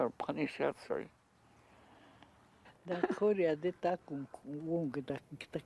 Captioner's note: speaking Dakota